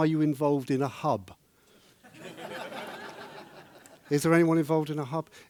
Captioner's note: laughing